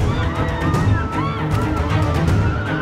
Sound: screams continue

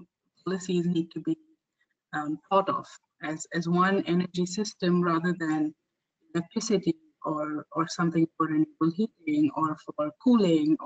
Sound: audio static

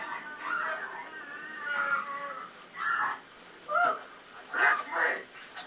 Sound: man and woman taunting and screaming

